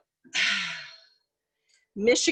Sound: sighs

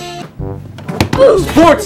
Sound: Roblox oof

